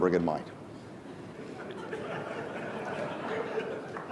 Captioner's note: laughing